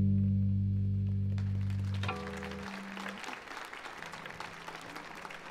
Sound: audience applauds

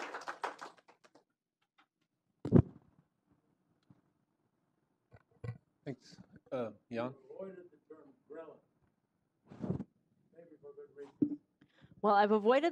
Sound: applause

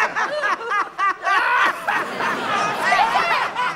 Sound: laughing

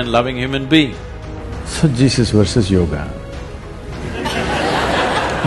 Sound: laughter

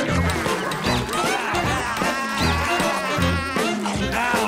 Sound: laughing

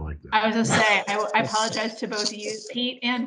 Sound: everyone laughing

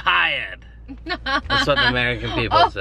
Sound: laughs

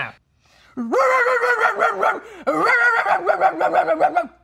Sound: barking

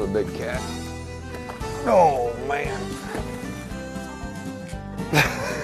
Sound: laughing

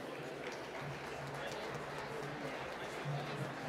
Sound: applause

